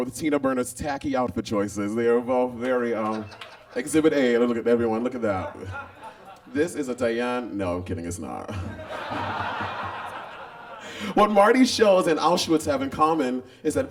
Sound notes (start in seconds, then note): 8.5 audience laughs